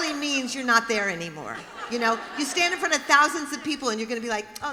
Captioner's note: laughter